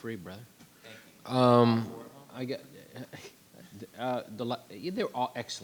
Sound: softly commenting

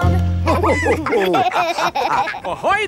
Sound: all laughing

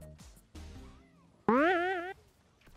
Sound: boing

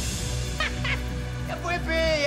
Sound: laughs

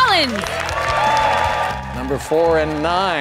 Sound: applause

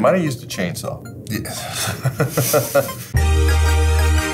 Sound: chuckle; bright, happy music

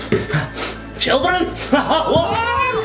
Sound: sniffing; laughs

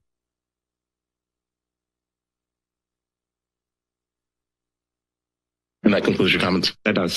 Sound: silence

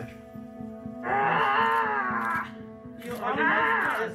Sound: groans

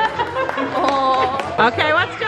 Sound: clapping

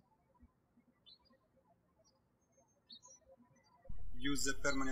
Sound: birds chirping

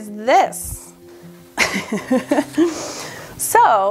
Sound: laughs

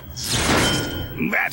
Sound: ding!

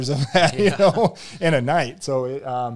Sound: laughs

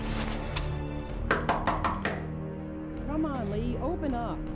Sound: knocking on door

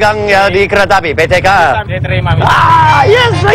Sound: speaking indonesian

